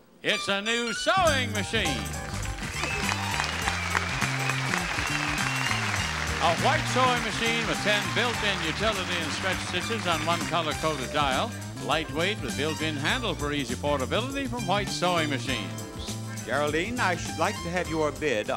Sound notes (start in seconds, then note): 1.9 audience applauding; 2.2 bright cheerful music